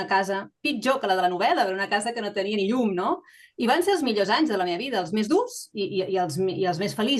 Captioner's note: continues speaking in Catalan